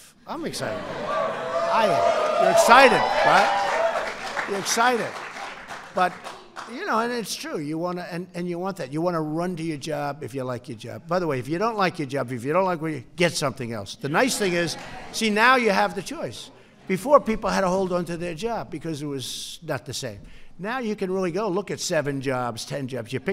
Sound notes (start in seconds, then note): 3.1 applause